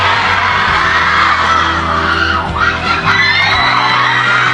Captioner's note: enthusiastic audiences